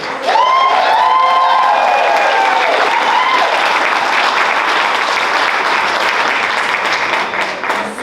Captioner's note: applause